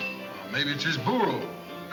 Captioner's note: Pancho in foreign language